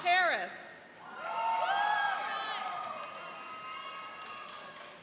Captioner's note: cheering and applauding